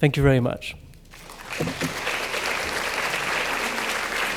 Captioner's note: applause